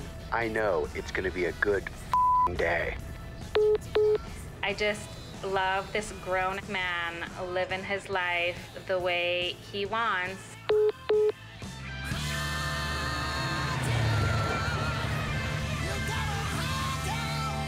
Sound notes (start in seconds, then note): 3.5 phone message beeping; 10.7 phone message beeping; 11.4 rock music ends